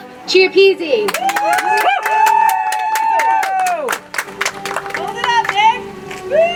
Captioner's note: audience applauds; soft music